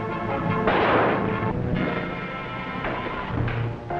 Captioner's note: tense music; gunfire pops